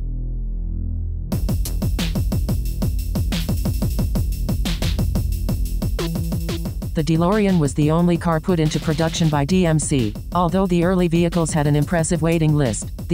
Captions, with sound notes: (upbeat music) - [Robotic Voice] The Delorean was the only car put into production by DMC. Although the early vehicles has an impressive waiting list